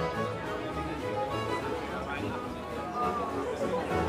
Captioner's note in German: Stimmengewirr im Hintergrund